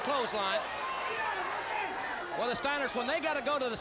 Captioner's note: crowd cheering